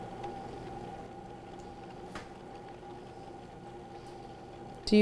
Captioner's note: mixer whirring